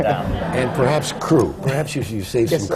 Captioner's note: laughter